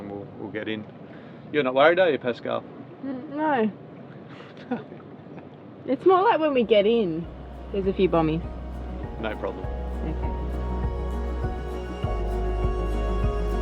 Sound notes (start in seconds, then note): 5.0 laughing; 10.7 gentle music